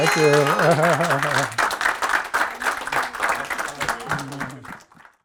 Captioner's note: applause